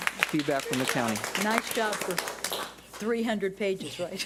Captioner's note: audience applauding